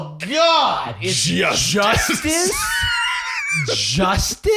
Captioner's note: wheezing